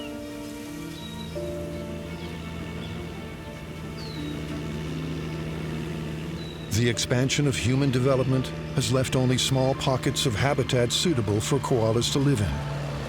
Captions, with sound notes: [machinery rumbling] The expansion of human development has left only small pockets of habitat suitable for koalas to live in.